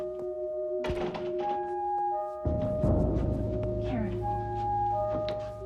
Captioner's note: door closing